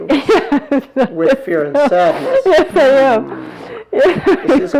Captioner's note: laughing